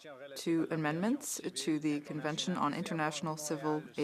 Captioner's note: VOice of TRanslator